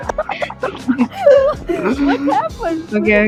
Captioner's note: giggles; more giggles